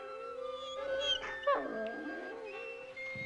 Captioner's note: whimpering